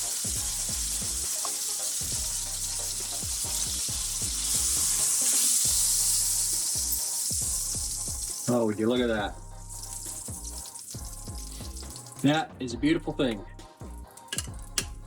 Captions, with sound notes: [sizzling] Oh, look at that. That is a beautiful thing.